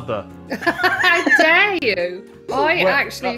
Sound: laughs

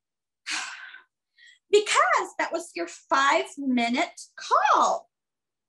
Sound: sighs

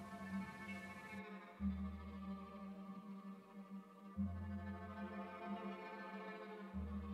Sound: spherical sounds

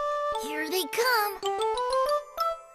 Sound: whispering

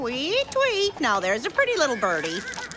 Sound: cooing

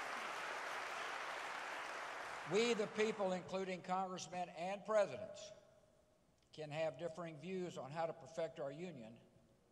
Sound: applause

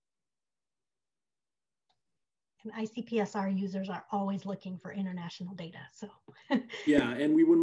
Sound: laughs

